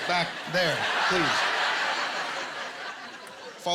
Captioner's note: laughter